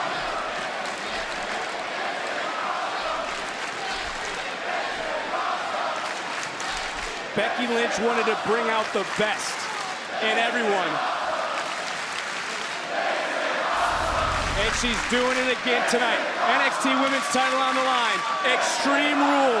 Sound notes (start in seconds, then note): 1.8 crowd chanting